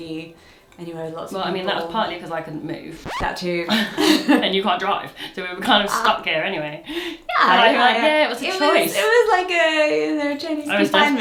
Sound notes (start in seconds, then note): 3.0 rewind screech; 4.2 laughs